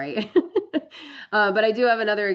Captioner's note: laughs